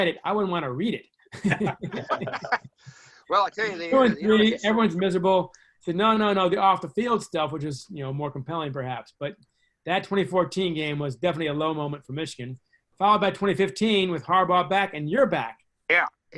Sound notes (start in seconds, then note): 1.3 laughs